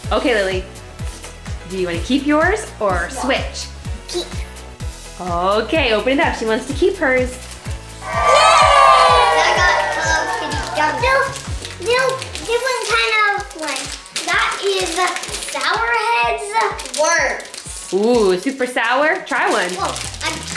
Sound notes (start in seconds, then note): 8.0 cheering